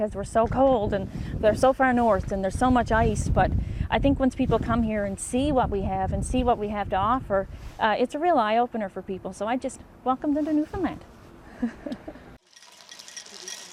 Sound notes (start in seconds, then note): 11.5 laughter